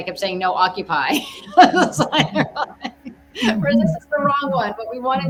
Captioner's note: laughs